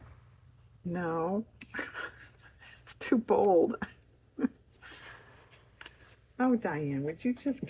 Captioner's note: laughs